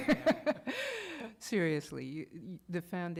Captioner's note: laughter